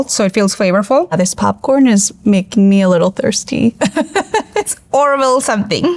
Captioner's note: laughs